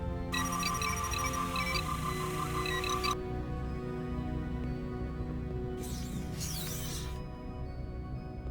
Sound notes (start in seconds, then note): 0.3 phone ringing